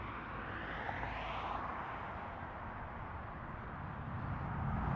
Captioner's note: aesthetic traffic noises